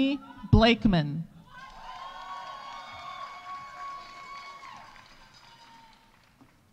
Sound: audience cheering; audience applauding

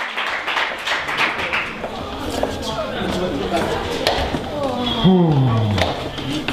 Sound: moans

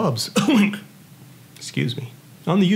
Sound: coughing

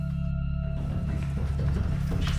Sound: soft pounding

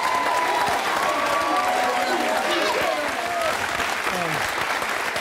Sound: audience applauding and cheering

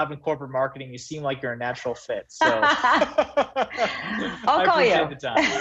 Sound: laughs

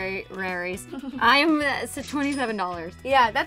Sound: cash register rings

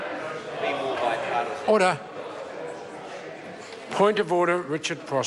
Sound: members talk loudly

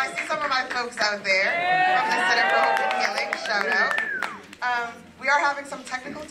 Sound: applause

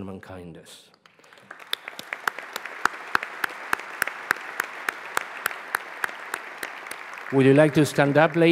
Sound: applause

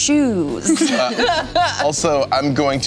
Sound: laughing

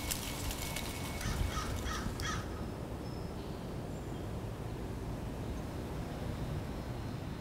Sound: coral tree leaves rustling in wind Bus suspension hiss and beeping; cawing of crows Distant wind and birdsong; ambient building hum Distant birdsong

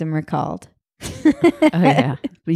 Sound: laughing

